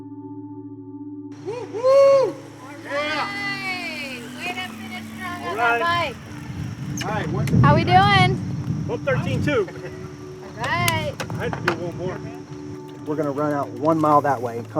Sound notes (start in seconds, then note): 1.4 group cheering